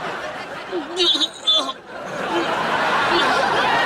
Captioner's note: audience laughs; groans; audience laughs